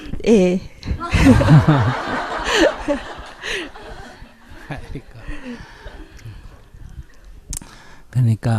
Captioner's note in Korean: 질문자 웃음; 스님과 청중 웃음